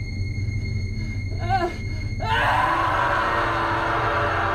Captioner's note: man shouting